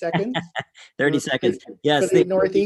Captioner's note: laughing